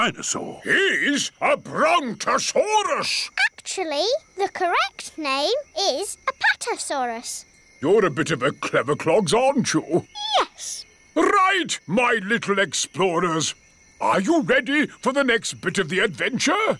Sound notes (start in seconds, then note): none